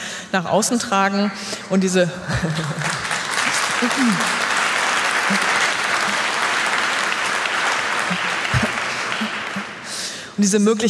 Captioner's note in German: Applaus